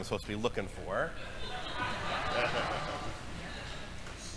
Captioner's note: audience laughing